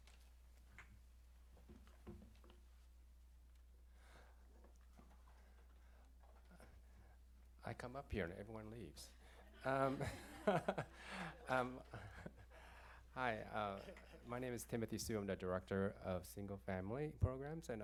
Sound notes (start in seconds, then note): 9.5 laughter